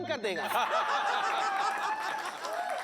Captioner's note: laughter